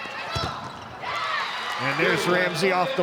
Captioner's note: ball thumping; audience cheering